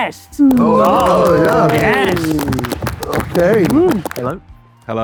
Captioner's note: group applauds